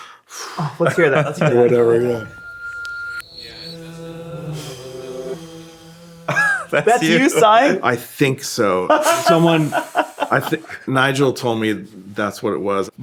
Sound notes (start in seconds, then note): 1.2 sighs; 1.4 everyone chuckles; 4.2 sighs in recording; 7.0 laughs